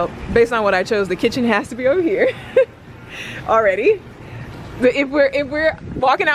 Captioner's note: laughs